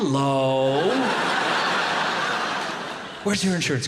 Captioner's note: audience laughing